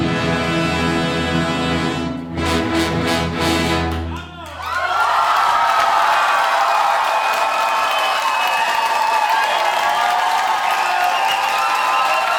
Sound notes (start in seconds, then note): 4.8 audience cheering; 5.7 audience applauding